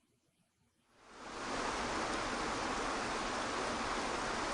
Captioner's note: water rushing